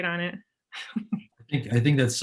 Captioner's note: chuckles